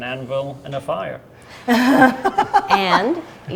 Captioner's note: laughing